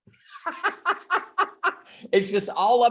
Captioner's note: laughs